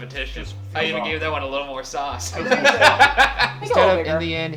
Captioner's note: laughs